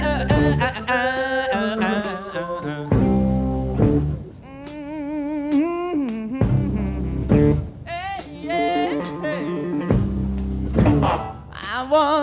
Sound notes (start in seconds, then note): 4.6 humming